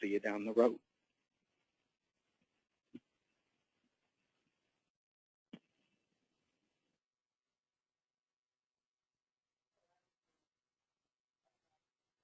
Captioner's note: silence